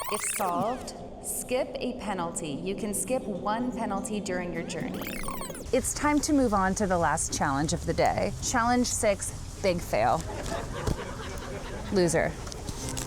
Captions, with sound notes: "If solved, skip a penalty. You can skip one penalty during your journey." It's time to move on to the last challenge of the day. Challenge six, big fail. (audience laughing) Loser.